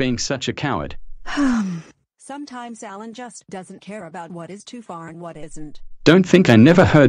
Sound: sigh

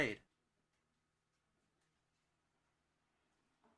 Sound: silence

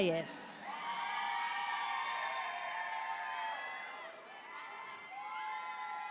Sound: audience cheering and applauding

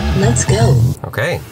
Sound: computerized Voice

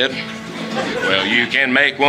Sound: audience Laughing

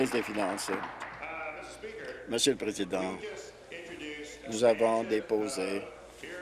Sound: applause

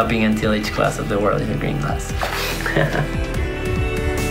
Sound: laughs

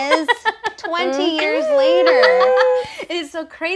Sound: laughing

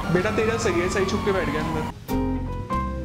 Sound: speaking foreign language; soft jazz music

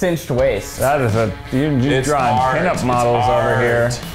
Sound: collective chatter

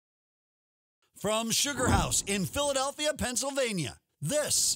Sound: voiceover

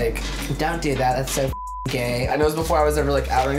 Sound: beep

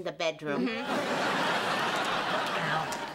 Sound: laughter

